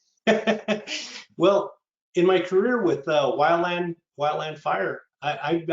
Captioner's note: chuckling